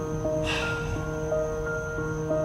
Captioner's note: sighs